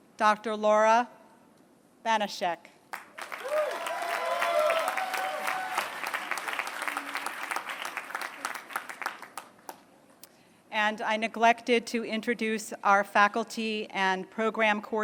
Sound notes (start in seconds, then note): 2.9 applause